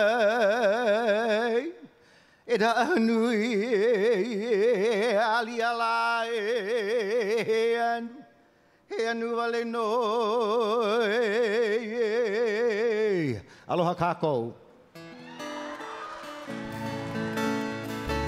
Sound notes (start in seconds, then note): 13.6 speaking in Hawaiian; 14.9 guitar strumming